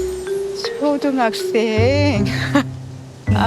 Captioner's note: laughs